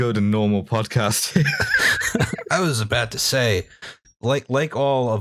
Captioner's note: laughter